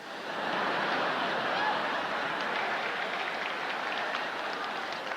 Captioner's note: laughter